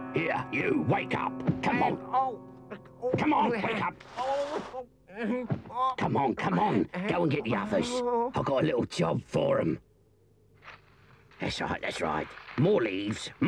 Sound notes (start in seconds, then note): 5.1 Henchman Weasel groans; 12.0 leaves rustle